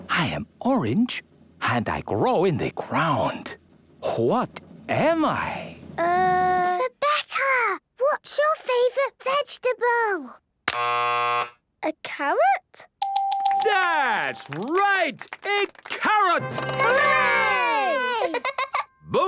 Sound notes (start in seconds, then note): 6.7 whispering; 10.7 buzzes; 13.0 dinging